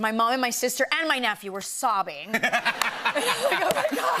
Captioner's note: laughter